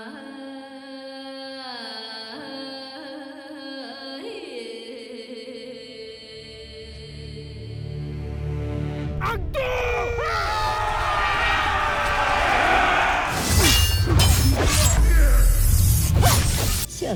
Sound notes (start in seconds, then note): 9.2 screaming; 13.3 weapons swishing & clanging; 15.3 grunting, growling, groaning